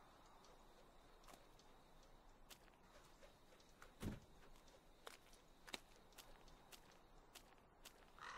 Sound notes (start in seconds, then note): 3.7 vehicle door shutting